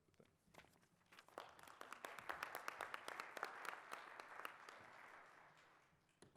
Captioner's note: applause